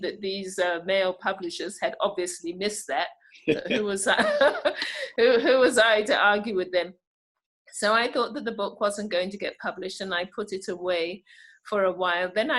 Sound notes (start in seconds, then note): 3.5 laughing; 4.9 laughs